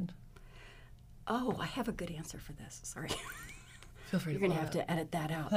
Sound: laughs

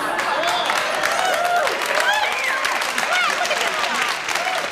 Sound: audience applauds

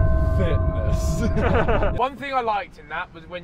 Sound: chuckles

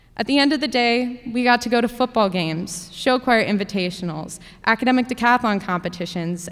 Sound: none

